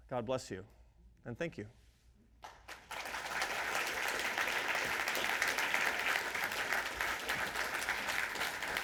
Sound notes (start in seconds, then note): 2.4 audience clapping